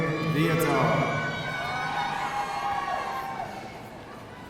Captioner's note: audience cheering